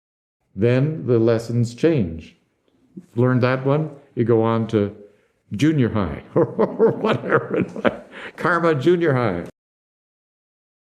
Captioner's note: laughs